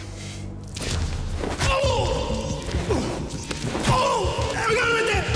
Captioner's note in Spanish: Quejido